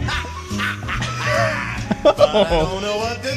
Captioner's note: laughing